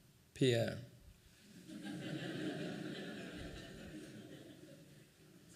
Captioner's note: laughing